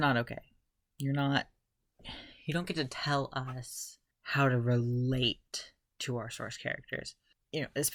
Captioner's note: sigh